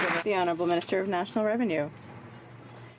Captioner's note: some Applause